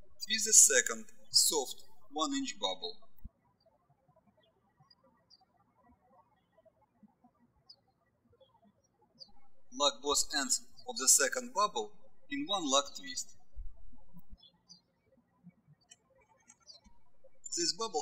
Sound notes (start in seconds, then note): 3.4 birds chirping; 14.0 birds chirping